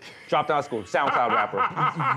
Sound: laughter

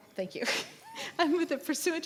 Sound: laughs

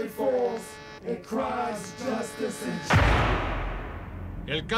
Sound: gunshot echoes

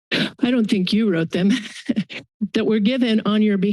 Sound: laughs

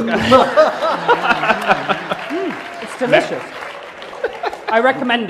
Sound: laughter and applause

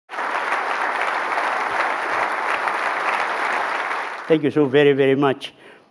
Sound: applause

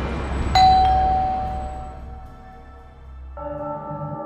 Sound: ring a door bell

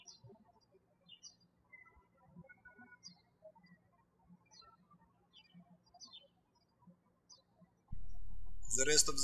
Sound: birds chirping

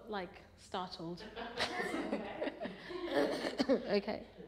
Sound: she laughs

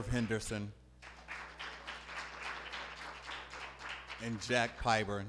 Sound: applause

